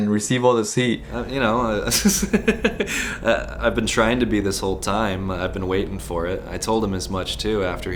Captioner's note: laughs